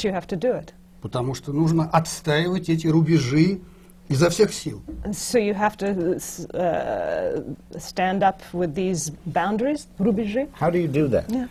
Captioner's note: foreign language not transcribed